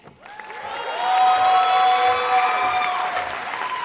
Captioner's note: audience cheers